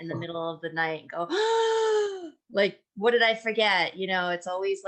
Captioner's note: gasps